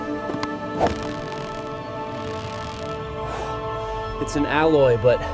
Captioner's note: rocks thudding; water splashes; instrumental music plays